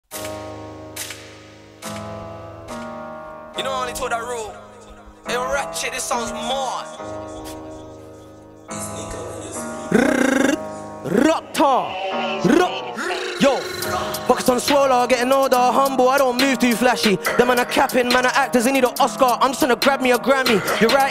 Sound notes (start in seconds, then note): 0.0 hip hop music; 9.9 tongue rolling